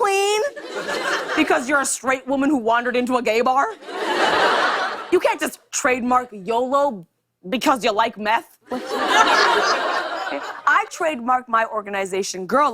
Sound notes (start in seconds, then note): 3.7 laughter; 8.7 laughter